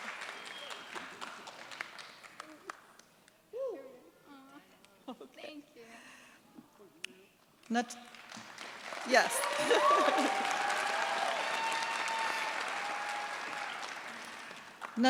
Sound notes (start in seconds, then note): 8.1 applause; 8.2 cheers, applause